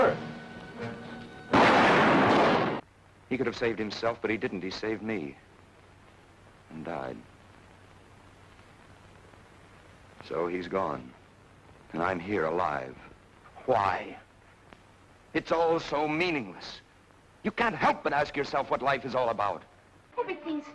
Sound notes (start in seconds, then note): 1.5 gunshots firing